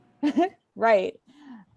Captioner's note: laughing